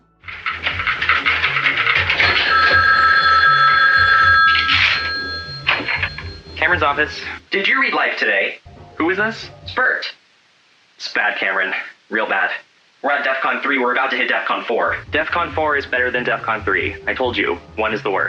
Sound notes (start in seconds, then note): 0.3 phone ringing